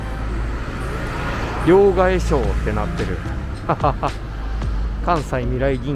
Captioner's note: laughs